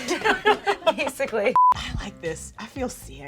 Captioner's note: laughing; beeping